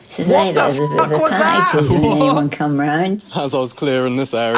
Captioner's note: beep